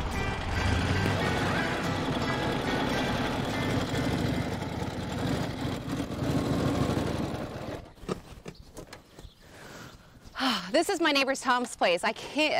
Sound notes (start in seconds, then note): 4.3 engine rumbles; 7.9 engine goes silent